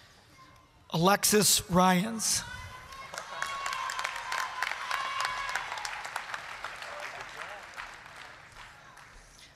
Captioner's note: applause, cheering